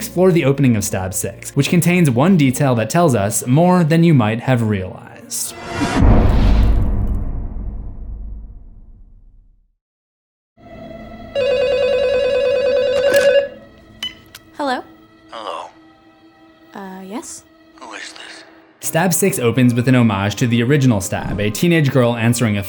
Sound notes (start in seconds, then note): 5.8 impact; 11.3 phone ringing